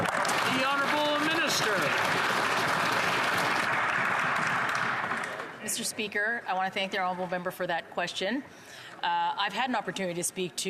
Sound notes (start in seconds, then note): 3.4 applause